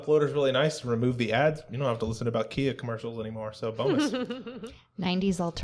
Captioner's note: laughter